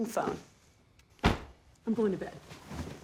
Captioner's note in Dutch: thumps